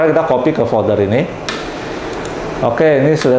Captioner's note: typing sound